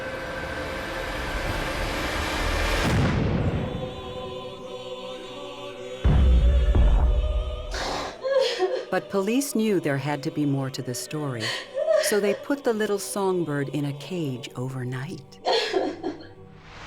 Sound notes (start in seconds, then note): 0.1 foreboding music playing; 7.4 wails; 15.4 sobbing